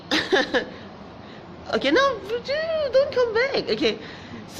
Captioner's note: laughs